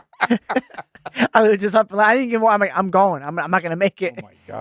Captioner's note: laughing